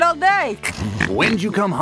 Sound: snorts intensifed

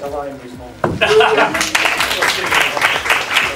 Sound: applause

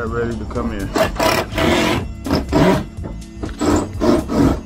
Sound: drill buzzing

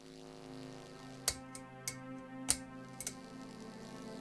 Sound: electricity buzzing; light fixture clicking; electricity buzzing

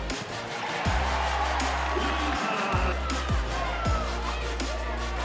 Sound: crowd cheering

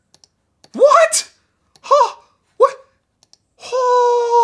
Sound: gasping

